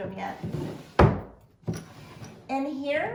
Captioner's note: drawer closes